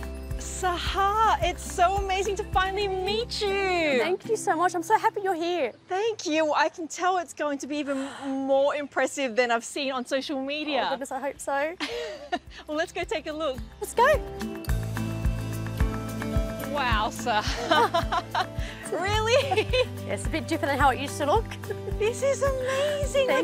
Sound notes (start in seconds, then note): 17.4 both laugh; 17.4 laughs